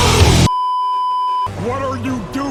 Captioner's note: beeeeeeeeeeeep